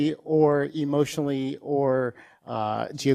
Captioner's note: none